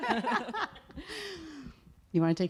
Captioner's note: laughing